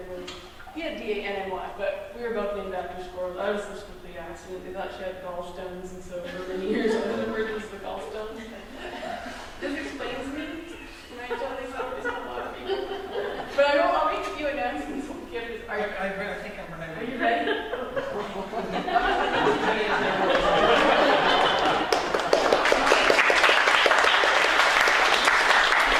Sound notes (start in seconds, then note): 18.7 applause; 18.7 audience laughter; 20.7 applause